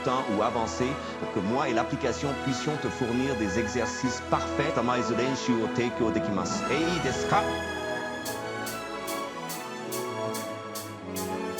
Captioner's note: non-english